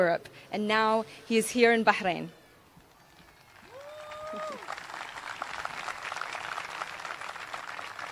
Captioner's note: applause